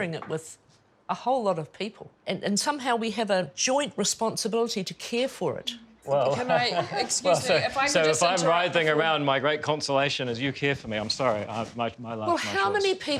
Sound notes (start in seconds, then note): 6.1 laughs